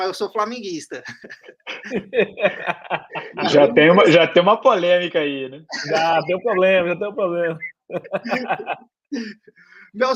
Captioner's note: laughs